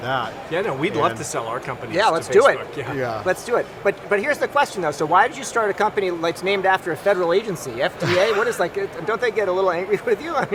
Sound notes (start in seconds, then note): 8.0 laughs